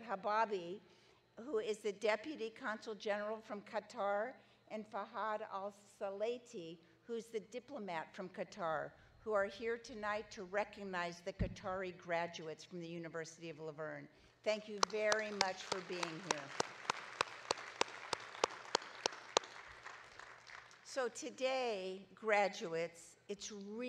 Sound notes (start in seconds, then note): 16.6 audience clapping